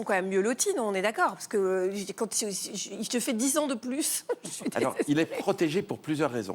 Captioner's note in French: rires